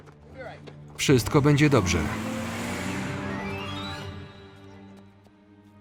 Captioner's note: tires squeal; dramatic music